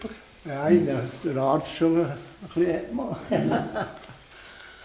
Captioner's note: laughs